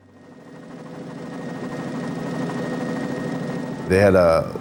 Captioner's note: helicopter blades whir